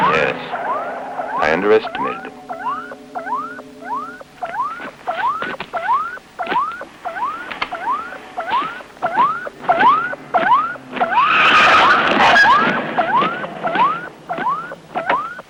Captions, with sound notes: - Yes I underestimated him. (electronic beeping) (tires squealing)